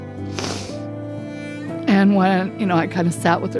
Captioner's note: sniffs